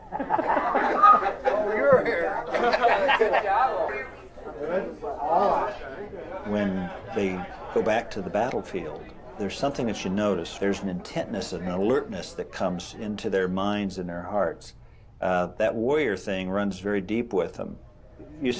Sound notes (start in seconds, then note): 0.5 crowd laughing; 3.5 laughs; 4.3 indistinct chatter